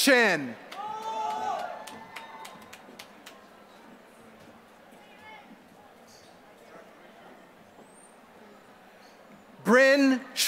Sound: applause

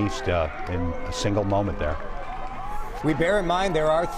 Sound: cheers and applause

